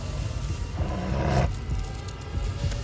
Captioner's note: animal grunts